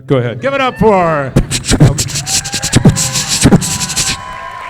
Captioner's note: beat box